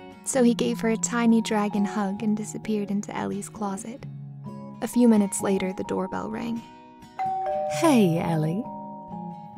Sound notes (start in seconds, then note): 7.2 doorbell rings; 8.2 voiceover